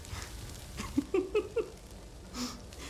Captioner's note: laughs